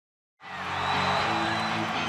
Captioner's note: crowd cheering